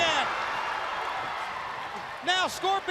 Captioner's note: crowd cheering